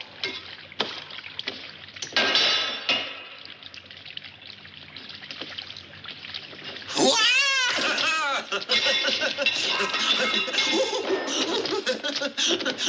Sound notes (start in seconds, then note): 6.6 cheering and laughing